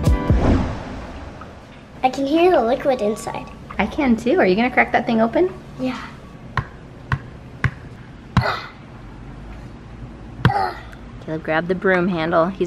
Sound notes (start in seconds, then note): 8.4 grunts